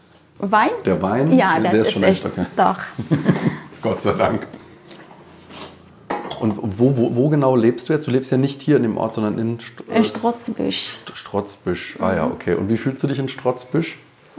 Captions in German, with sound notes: Wein? Ja, das ist echt, doch. (lachend:) Gott sei Dank. Und wo genau lebst du jetzt? Du lebst ja nicht hier im Ort. - In Strotzbüsch. In Strotzbüsch, okay. Und wie fühlst du dich in Strotzbüsch?